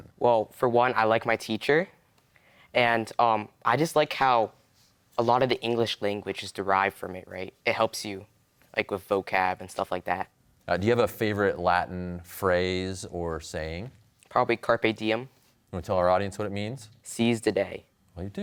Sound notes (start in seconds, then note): none